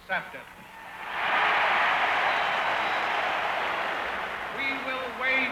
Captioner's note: audience cheering and applauding